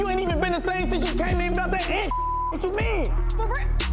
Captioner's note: beep